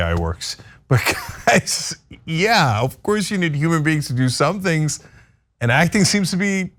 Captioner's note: laugh